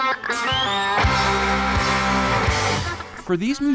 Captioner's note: upbeat electric guitar music; crowd cheering